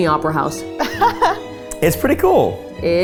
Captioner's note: laughing